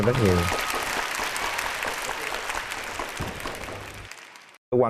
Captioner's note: applause